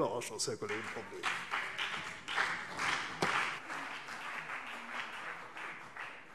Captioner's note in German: Beifall CDU und BÜNDNIS 90/DIE GRÜNEN